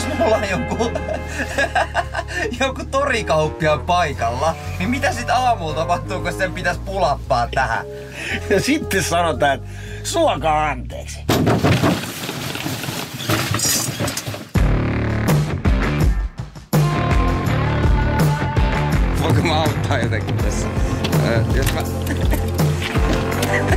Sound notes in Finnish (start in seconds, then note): 11.3 Koputus